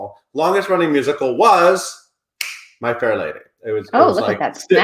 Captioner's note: snapping